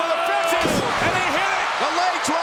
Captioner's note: body thudding